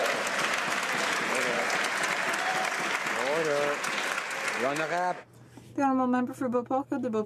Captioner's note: some Applause